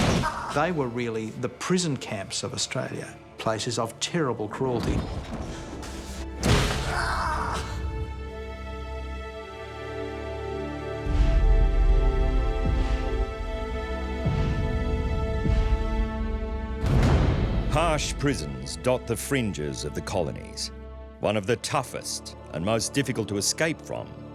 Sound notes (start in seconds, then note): 6.9 man screams; 8.4 dramatic music